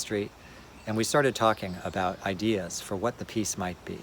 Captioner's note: none